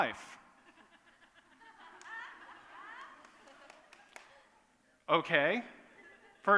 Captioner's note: laughter